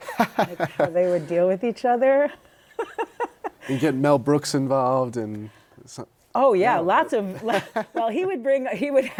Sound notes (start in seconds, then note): 0.0 laughter; 2.6 laughter; 7.3 laughter